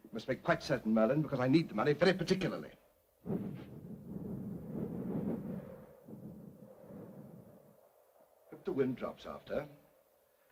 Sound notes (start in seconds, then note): 3.2 flames blowing